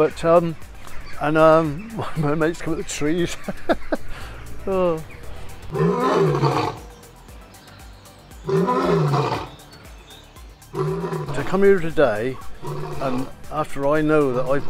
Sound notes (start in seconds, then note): 3.1 laughter; 5.7 Lion Roaring